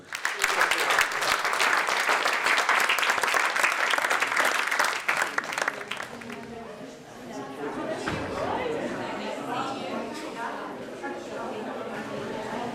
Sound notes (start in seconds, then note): 0.0 audience clapping; 6.2 crowd chattering